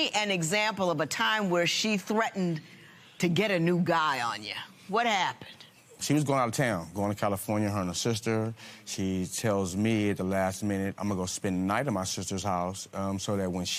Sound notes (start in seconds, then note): none